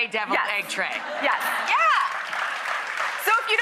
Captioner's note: applause